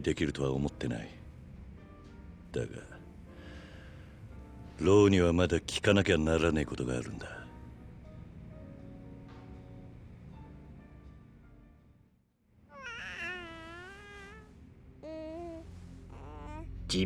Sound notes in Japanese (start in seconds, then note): 12.7 泣き声